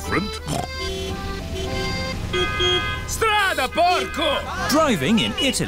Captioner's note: horns honking; snorts; driver yells in italian